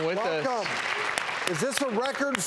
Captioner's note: clapping